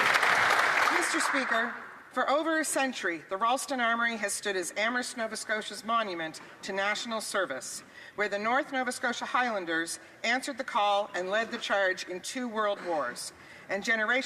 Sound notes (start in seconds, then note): 2.2 some Applause